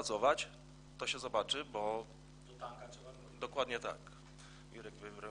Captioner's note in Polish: głosy z sali